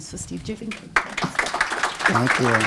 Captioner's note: applause